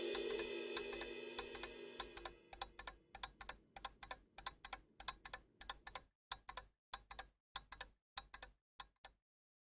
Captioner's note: clock ticking